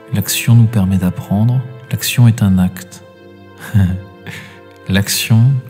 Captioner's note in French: rires